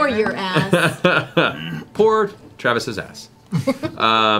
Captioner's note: laughs